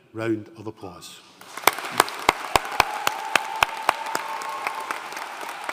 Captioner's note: audience cheering and applauding